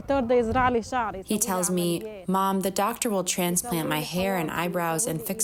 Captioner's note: through translator